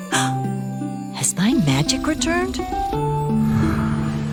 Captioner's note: gasp